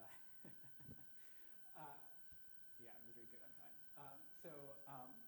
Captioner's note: chuckles